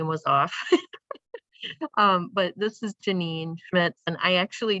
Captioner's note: laughter